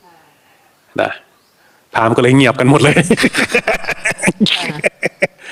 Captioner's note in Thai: เสียงหัวเราะ